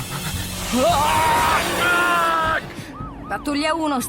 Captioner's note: shrieks